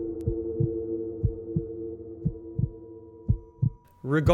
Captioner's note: heartbeat thumping